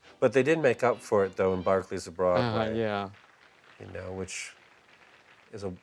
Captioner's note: song ends, applause